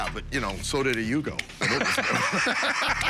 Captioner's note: laughter